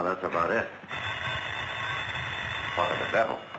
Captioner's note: phone ringing